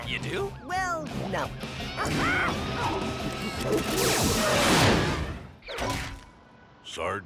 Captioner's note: clyde hollers, fires the whoosh-ray